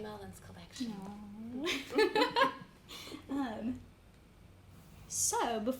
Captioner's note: chuckles